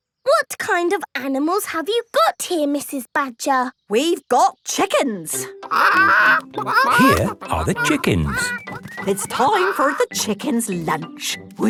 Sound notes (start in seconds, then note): 5.6 clucking